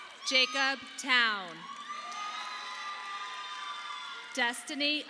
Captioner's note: audience applauding